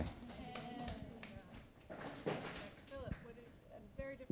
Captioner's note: attendees applauding and cheering